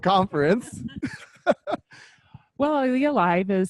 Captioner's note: laughs